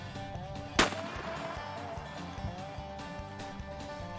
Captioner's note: gun fires